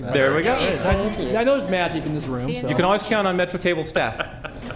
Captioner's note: laughter